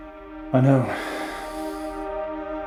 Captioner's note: sighs; dramatic music